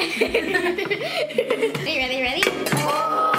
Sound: giggles

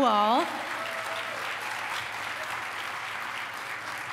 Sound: applause

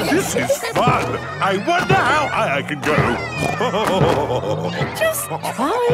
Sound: laughing; snorting and laughing

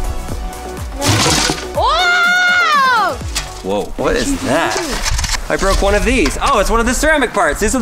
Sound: none

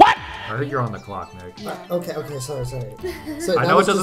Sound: laughs

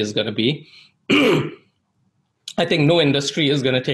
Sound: clears throat

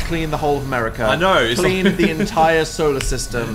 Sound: laughs

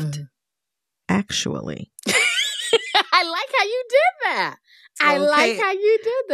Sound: laughter

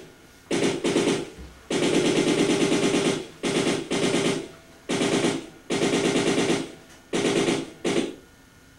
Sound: machine gunfire continues

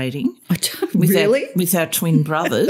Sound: laughter

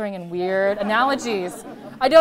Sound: laughter

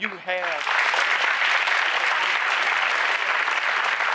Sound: applause

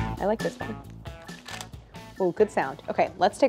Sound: pate a choux crunching

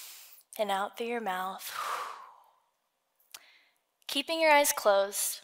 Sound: sighs

